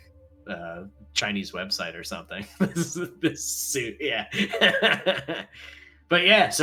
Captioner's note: laughing